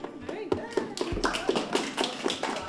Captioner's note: applause